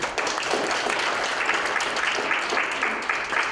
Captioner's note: applause